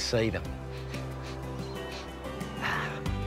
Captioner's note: sniffs